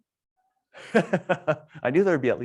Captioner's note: laughs